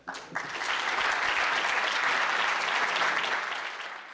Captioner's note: applause